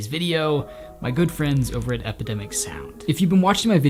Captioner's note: logo tinkling